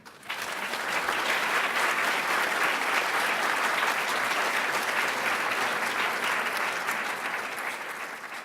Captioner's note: cheers; applauds